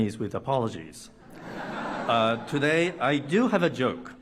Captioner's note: laughter